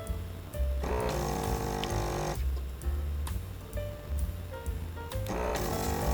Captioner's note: motor whirring